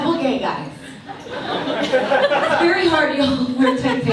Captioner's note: audience laughs